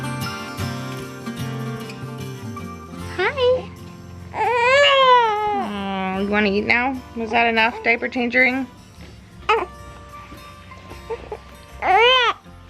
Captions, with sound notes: Hi. (crying) You want to eat now? Was that enough diaper changing?